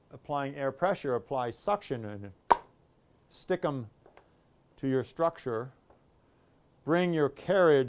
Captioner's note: thunk